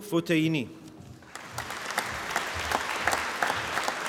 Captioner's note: applause